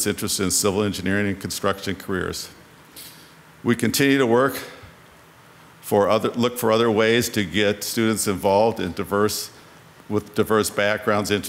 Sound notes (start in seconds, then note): none